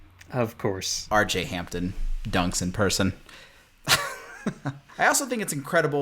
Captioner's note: laugh